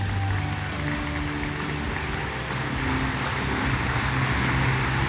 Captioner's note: applause